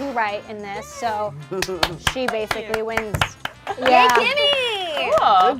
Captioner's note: claps